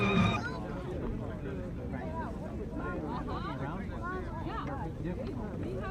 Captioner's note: indistinct chatter